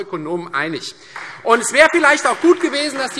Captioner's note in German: Beifall Freie Demokraten